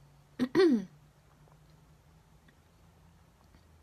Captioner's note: clears throat